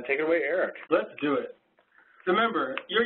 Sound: voiceover

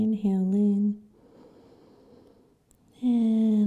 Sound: inhaling

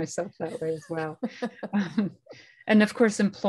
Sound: laughter

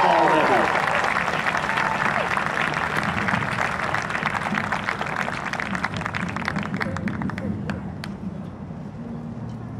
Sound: applause and cheering

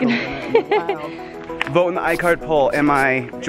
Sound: laughs

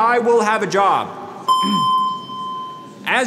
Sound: machine dings

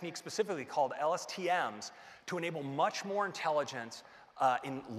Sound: none

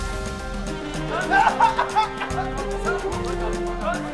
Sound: coughs

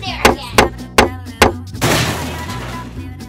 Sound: assistant knocking; door breaks

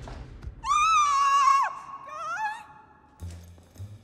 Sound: thud; screams

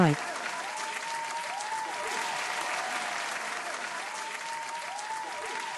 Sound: studio applause

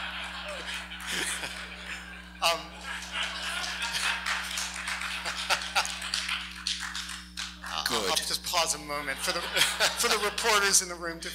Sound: laughs

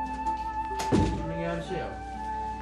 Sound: door closes

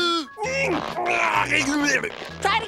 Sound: grunting

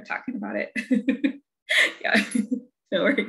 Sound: laughter

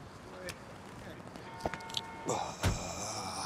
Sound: horn honking; Douda grunting

